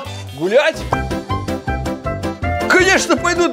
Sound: walking

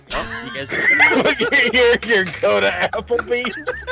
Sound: they're all laughing; laughing; they're still laughing

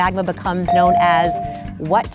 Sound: bell dinging

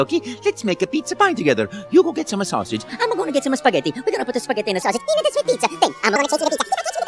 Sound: italian rambling

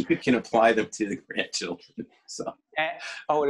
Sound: laughing

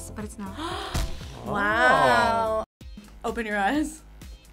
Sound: gasps

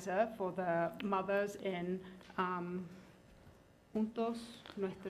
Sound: foreign language

